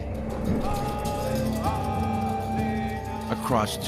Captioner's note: men chanting